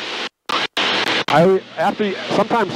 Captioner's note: radio static